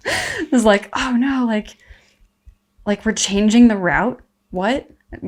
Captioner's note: laughs